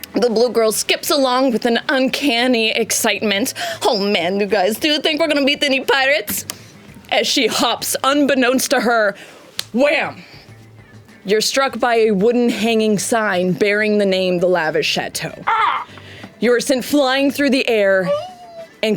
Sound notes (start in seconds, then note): 15.4 groans